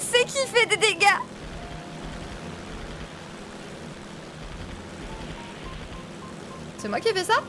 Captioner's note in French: bruit moteurs et mitraillettes